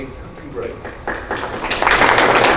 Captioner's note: applause